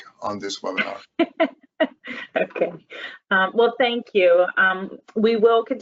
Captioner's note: laughs